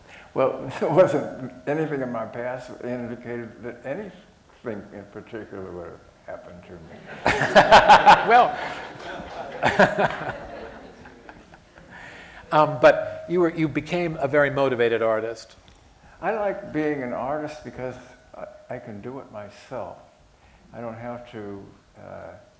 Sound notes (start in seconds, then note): 6.9 laughter